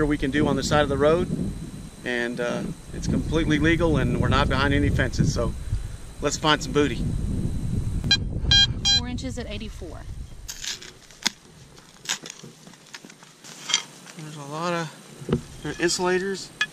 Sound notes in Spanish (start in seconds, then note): 8.4 pitido